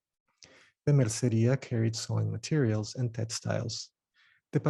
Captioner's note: speaking Spanish